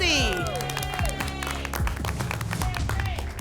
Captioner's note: applause and cheering